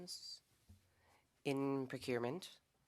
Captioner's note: speaking French